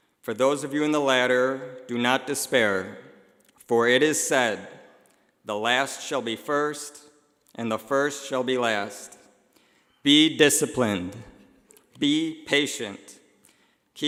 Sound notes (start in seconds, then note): none